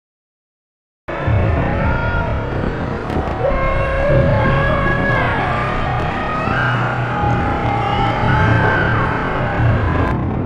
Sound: sound of zombie crowd

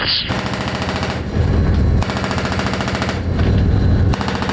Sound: machine gun firing

